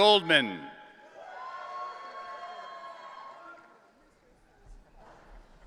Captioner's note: audience cheering